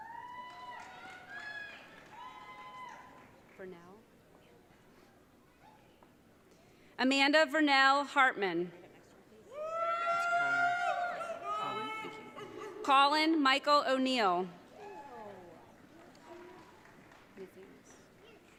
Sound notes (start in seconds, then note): 9.6 audience cheering